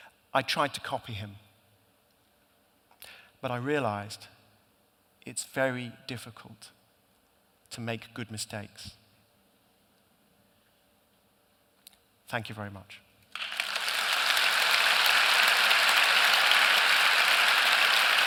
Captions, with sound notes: "I tried to copy him... "..but I realised it's very difficult to make good mistakes." Thank you very much. (APPLAUSE)